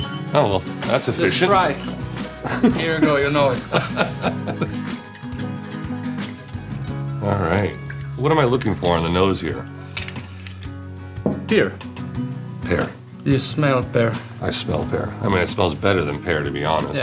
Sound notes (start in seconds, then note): 2.4 laughing; 4.7 soft music